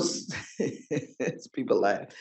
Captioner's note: chuckles